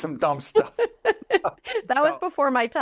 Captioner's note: laughter